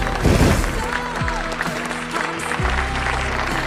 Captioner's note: guests cheering